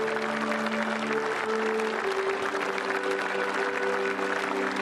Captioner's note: applause